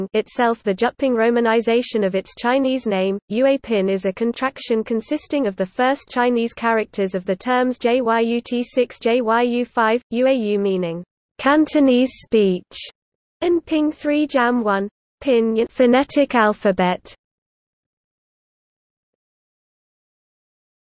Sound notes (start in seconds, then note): 9.3 粵語, meaning "Cantonese speech"